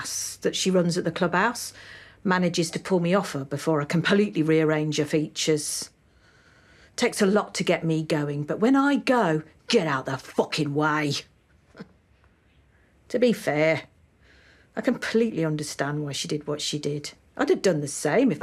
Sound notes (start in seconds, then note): 11.4 she chuckles